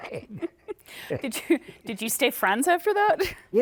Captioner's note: laughter